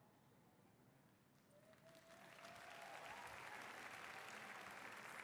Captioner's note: applause